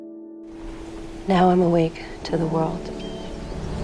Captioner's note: voiceover